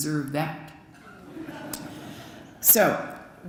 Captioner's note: laughter